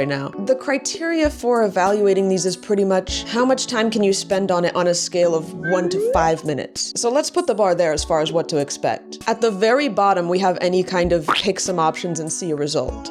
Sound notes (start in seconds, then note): 5.6 slide whistle up